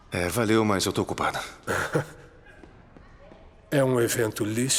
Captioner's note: laughs